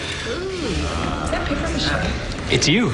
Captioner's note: crowd muttering